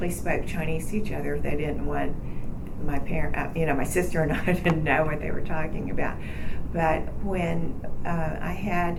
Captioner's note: laughing